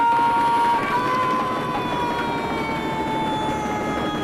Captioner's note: all cheering